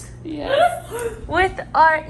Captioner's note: laughs